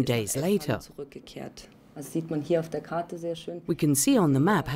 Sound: speaking in foreign language

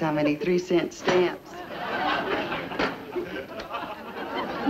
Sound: audience laughs

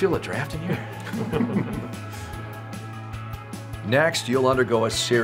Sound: clinicians laughing

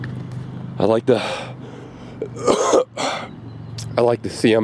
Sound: coughing

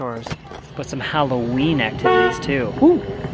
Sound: car honks

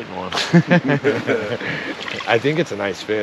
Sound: laughing

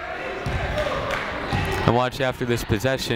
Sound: people shouting in the crowd

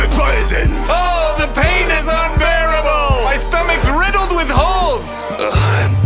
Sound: moans

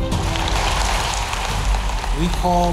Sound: applause

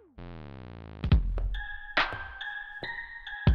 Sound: footsteps

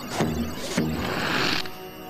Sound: suction noise

